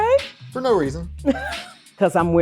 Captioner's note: laughing